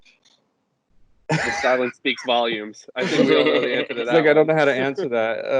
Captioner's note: laughter